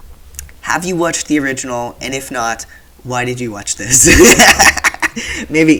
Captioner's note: laughter